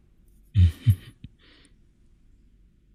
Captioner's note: preacher chuckles softly